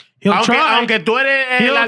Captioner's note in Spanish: Hablando en idioma extranjero